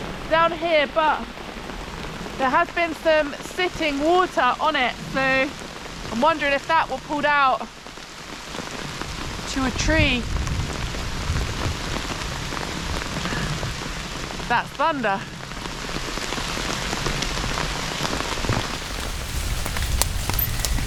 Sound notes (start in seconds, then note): 0.0 rain; 10.3 thunder starts rumbling; 16.4 rain